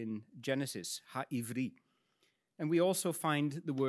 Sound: speaks in Hebrew

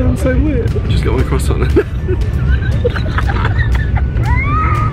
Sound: both laugh

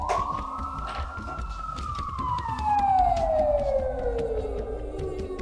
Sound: police siren in distance

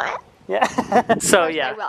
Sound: laughs

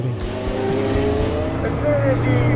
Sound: car engine revs

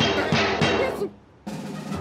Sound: whimpers

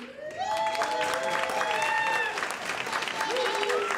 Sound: audience applauds

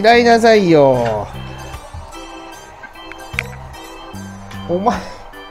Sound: laughs

